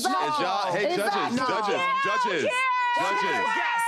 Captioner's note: yells